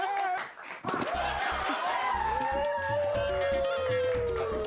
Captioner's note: cheering